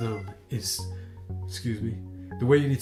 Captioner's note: cat meows